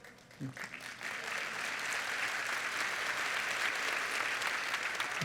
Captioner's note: applause